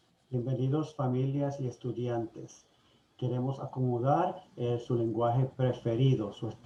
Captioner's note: speaking foreign language